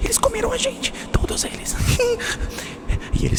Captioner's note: giggles